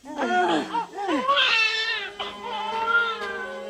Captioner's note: baby crying